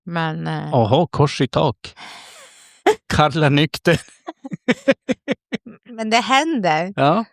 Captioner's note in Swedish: skratt